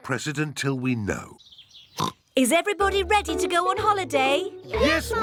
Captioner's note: oinks